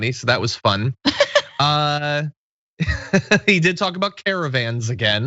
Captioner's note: laugh